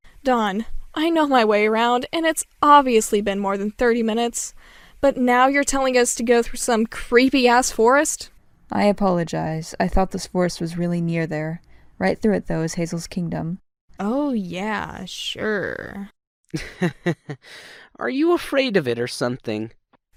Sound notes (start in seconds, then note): 16.5 chuckle